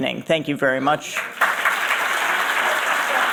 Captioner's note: applause